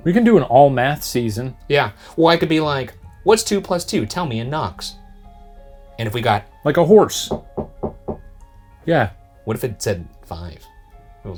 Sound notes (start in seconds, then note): 7.2 knuckles knocking